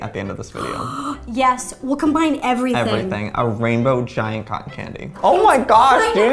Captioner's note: gasp